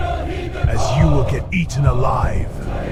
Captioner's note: heart Beating